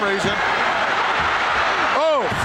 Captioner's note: audience cheering